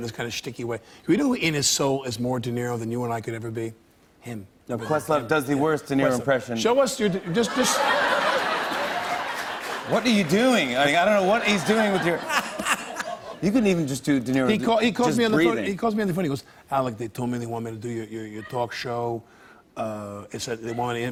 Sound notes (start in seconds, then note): 7.3 laughter